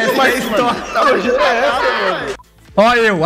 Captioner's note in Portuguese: risos